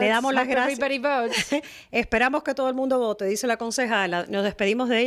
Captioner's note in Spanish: Hablando ingl\s